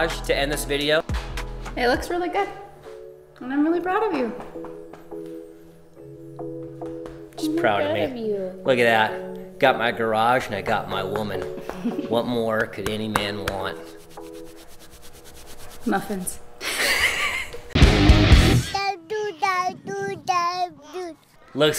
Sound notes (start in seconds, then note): 11.6 laughs; 13.7 soft rubbing; 16.6 bright music; 16.6 couple laughs; 18.7 child gibbering